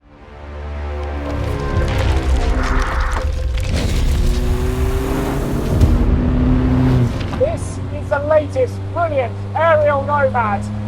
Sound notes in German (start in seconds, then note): 0.5 dramatische Musik; 4.9 Motorheulen